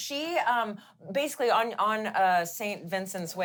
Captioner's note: none